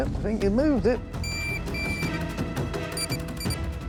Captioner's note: beeping